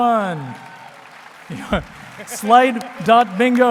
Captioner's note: applause